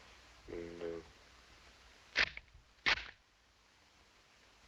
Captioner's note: rifle cocks